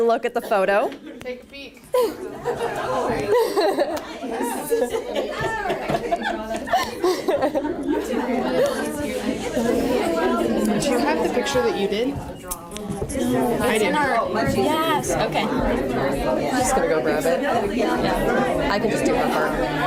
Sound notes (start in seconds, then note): 11.1 quietly